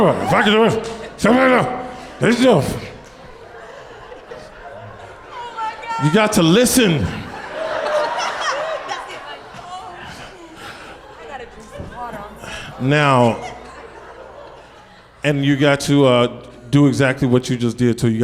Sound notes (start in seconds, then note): 0.0 through gritted teeth; 3.5 audience laughs